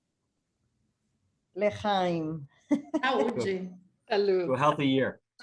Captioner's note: chuckles